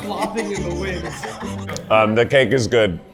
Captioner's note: laughter